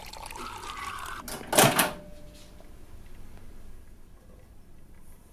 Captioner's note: button clicks